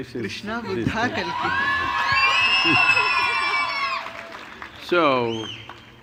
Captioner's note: cheers/Applause